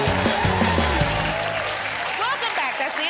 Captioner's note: cheers and applause